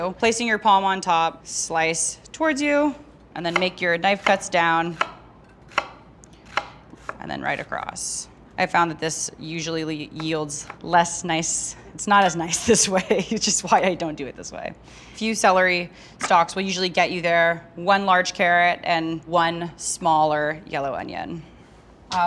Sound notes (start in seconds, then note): 6.5 knife tapping; 12.0 laughing